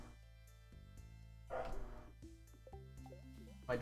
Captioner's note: Brady continues barking